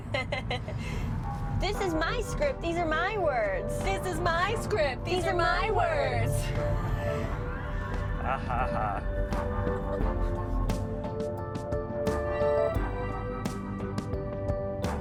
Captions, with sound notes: [laughs] "This is my script. These are my words." "This is my script. These are my words." (SARCASTICALLY) Ha ha ha. [chill-out music]